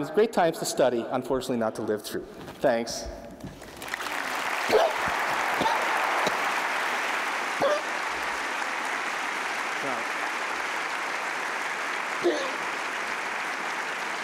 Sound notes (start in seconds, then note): 3.5 applause